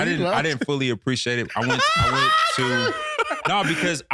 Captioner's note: laughing